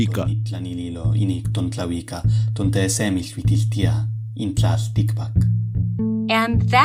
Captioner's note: speaking non-English language